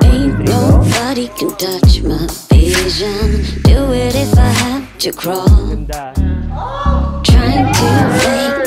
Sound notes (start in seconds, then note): 6.6 screams